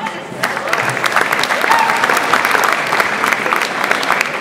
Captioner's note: audience applauds